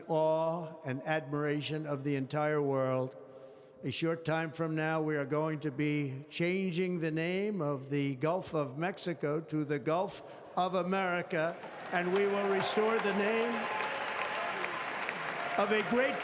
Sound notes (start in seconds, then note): 11.4 applause